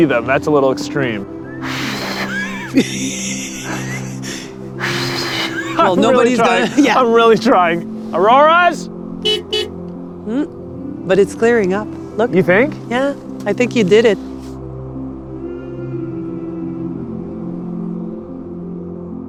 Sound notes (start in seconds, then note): 9.1 horn honks; 14.9 peaceful music